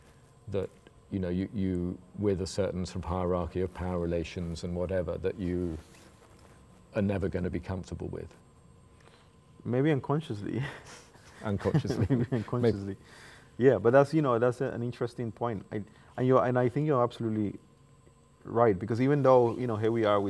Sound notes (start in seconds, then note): 11.5 laughs